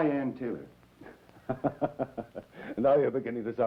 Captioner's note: laughter